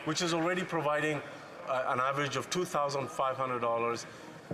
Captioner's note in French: voix de l'interprète